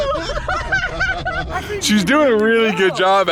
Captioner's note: laughing